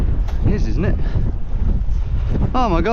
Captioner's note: wind rustling